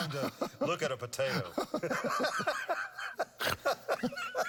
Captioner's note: both laughing